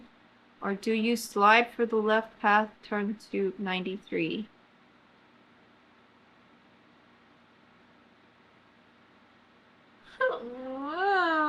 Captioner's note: groans